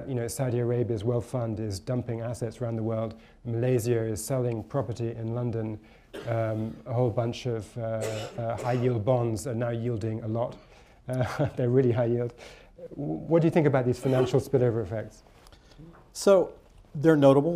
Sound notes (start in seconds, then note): 10.4 laughs